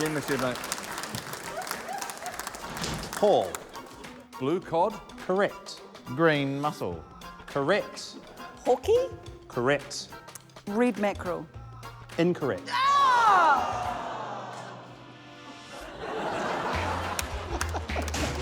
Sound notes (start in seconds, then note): 13.1 groans; 15.6 laughter